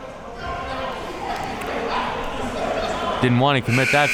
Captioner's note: audience chattering